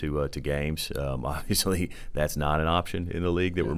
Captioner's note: chuckles